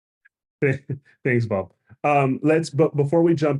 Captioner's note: laughs